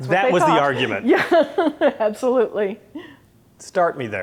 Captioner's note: laughs